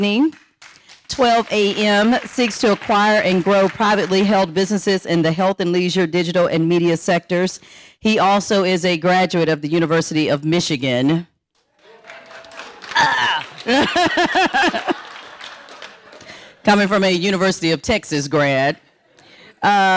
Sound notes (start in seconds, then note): 11.6 audience applauding; 14.7 laughing